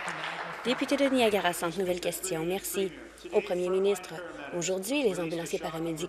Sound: applause

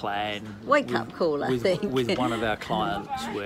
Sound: laughs

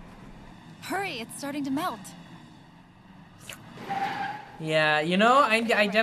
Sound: slurps

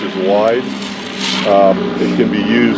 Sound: roars

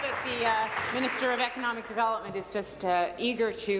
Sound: applause

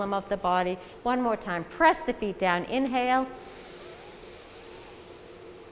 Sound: inhale

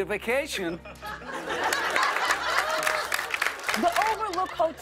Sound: laughter and applause

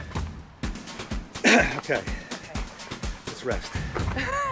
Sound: clears throat; laughing

